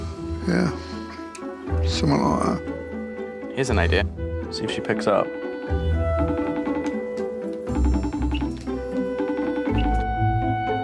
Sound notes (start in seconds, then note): 6.1 line ringing